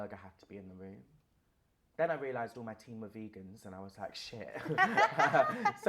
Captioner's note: laughter